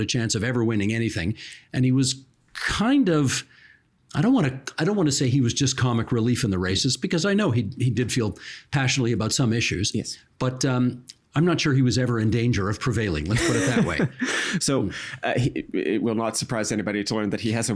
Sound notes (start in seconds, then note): 13.3 laughing